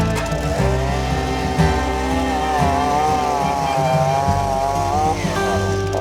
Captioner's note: bright music; chainsaw whirring